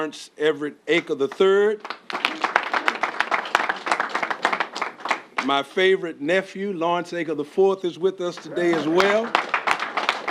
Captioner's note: applause